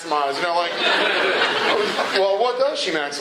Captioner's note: laughter